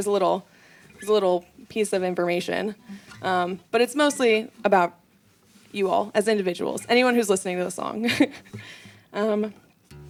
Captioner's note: laughs